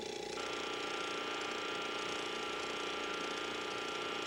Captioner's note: bed buzzing